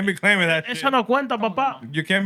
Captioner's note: speaking Spanish